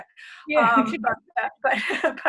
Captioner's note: laughter